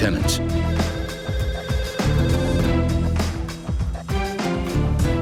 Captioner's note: phone ringing